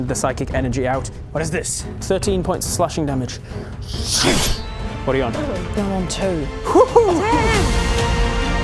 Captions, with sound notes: the psychic energy out What is this? 13 points of slashing damage *SLASH* What are you on? I'm on two Phew-hoo! Damn!